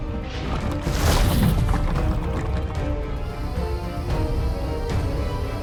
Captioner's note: fire crackling; dramatic music